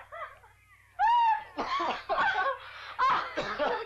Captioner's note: laughing; Cass coughs